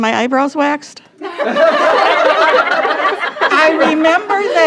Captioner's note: all laughing